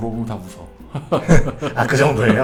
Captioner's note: laughs